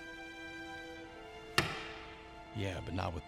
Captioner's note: wedding ring clatters